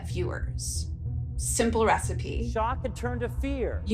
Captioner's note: soundbite of archived recording